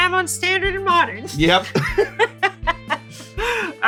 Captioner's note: laughs